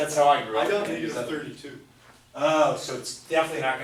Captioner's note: voiceover